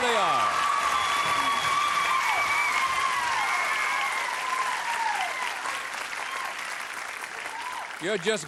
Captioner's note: applause